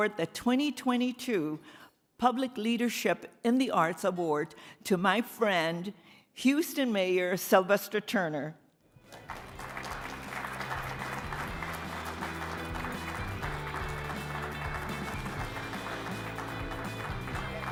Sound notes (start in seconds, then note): 9.0 audience applauding; 9.6 upbeat music